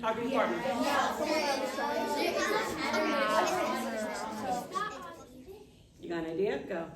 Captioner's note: students talking with partners